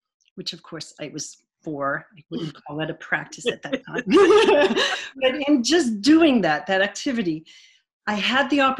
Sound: laughter

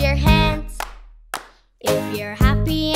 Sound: hand Clapping Twice

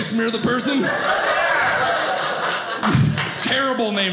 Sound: audience laughing

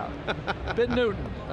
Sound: laughter

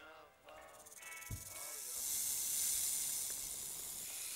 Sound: snake rattles

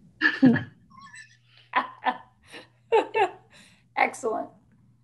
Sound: scattered laughing

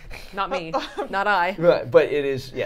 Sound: laughing

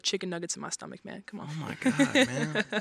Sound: laughs

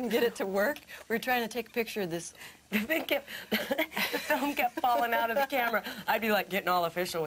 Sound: laughs

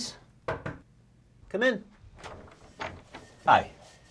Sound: knocks

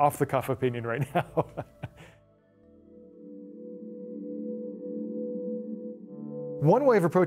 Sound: laughter

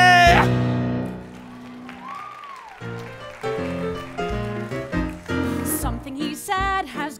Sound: applause

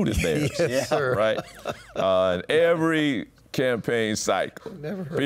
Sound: laughs

